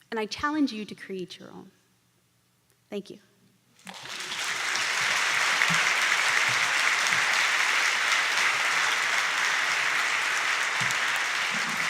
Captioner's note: applause